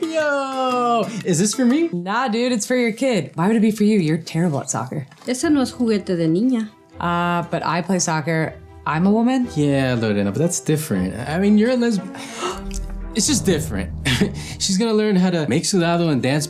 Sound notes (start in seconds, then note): 5.5 speaks foreign language; 12.1 gasps; 15.4 speaks foreign language